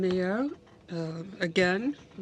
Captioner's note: speaking in french